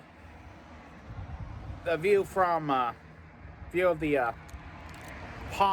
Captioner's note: stammering